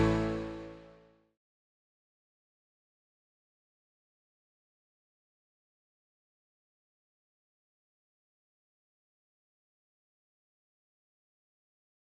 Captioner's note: applause